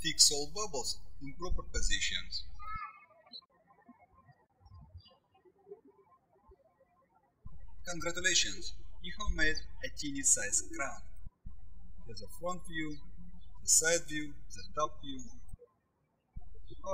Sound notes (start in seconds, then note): 4.6 birds chirping